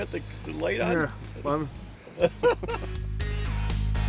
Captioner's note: laughing